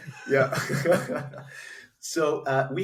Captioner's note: both chuckle